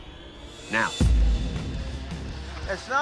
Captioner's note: flames whoosh